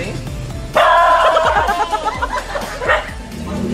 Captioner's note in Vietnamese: gâu gâu gâu gâu gâu gâu gâu